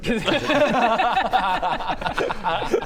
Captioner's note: cynical laughter